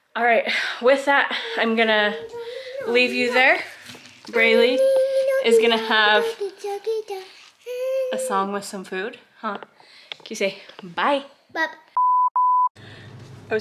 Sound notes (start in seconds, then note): 6.0 humming; 12.0 beeping